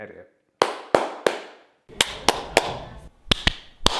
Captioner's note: clapping